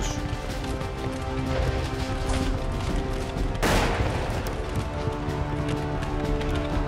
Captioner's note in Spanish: Explosiones, disparos